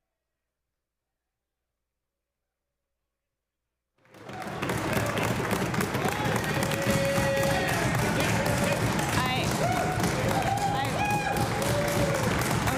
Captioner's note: applause